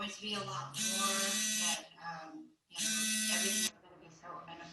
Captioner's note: phone buzzes